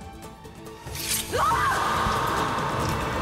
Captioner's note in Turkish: Çığlık sesi